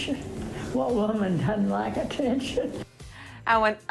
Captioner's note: laughs